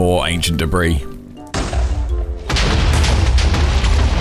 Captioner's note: explosions